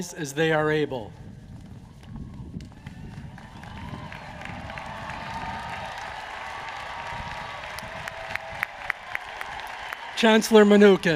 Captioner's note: applause